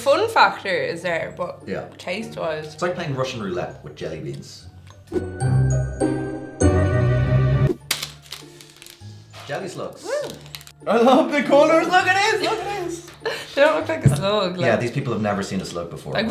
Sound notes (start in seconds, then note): 1.7 trails off